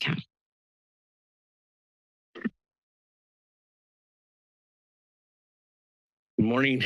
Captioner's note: silence